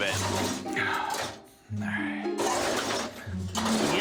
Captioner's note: sighing